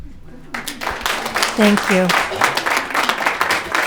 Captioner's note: audience clapping